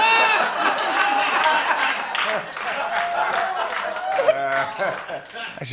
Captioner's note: laughter; applause